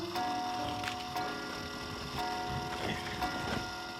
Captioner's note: clock chiming